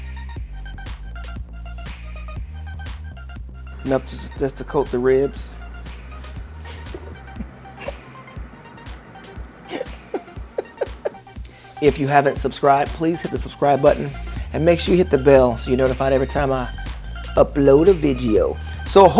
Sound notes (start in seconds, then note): 6.6 laughs